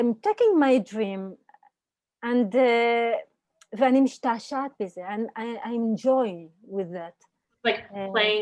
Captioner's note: Hebrew